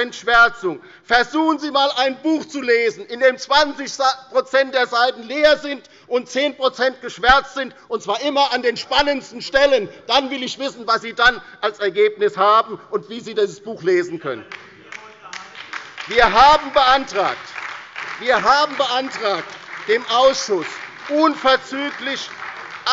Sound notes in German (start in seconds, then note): 14.5 Beifall bei der LINKEN und der SPD